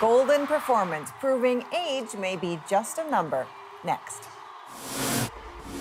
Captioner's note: cheers and applause